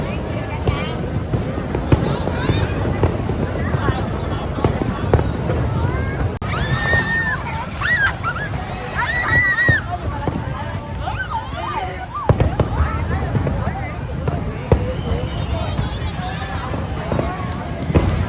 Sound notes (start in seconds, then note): 7.5 laughs